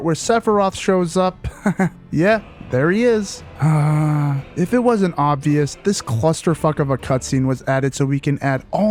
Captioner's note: sigh